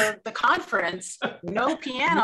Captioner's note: laughs